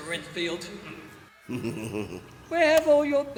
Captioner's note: Renfield laughs